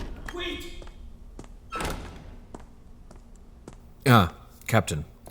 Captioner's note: metal door swings shut